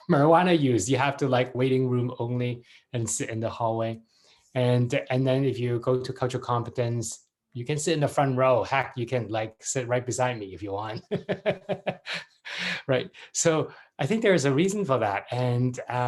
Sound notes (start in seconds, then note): 10.9 laughs